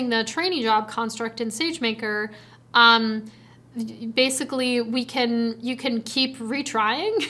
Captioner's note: chuckles